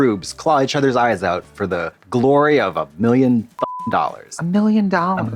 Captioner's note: beep